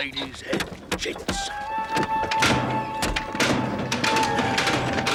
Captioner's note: clanking